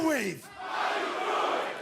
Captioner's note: fans chanting